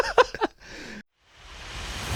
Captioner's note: laughing